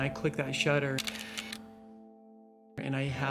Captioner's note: camera shutter clicks